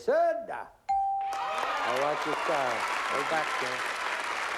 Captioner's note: applause